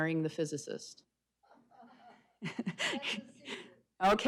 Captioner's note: laughing